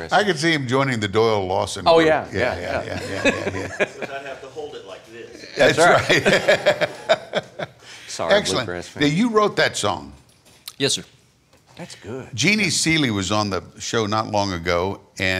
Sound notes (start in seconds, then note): 6.9 laughing